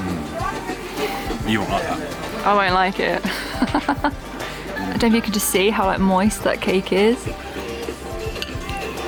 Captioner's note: laughing